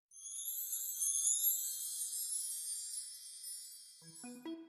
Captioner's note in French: 🎶 Son Féérique 🧚‍♀️🎶